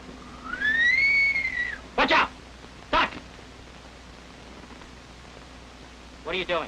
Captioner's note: whistling